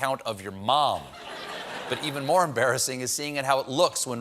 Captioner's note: audience laughing